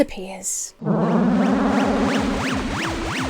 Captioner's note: electronic warbling